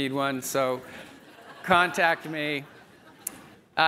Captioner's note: audience members laugh